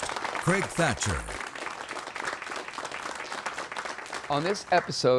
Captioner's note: applause